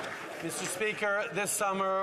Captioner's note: some Applause